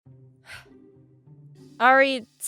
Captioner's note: sigh